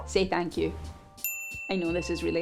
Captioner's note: bell ringing